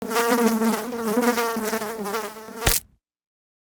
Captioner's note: fly buzzing; fly splatting